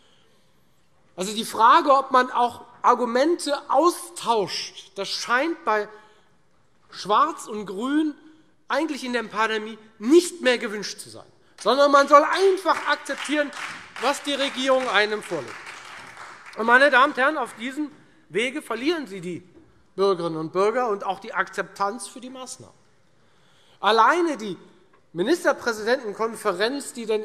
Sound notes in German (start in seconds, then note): 15.3 Beifall Freie Demokraten, vereinzelt SPD und DIE LINKE